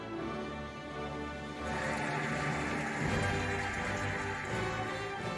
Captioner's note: cheering and applauding